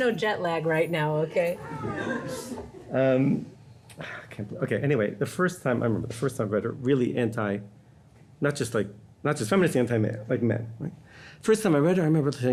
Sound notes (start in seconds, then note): 1.6 audience laughing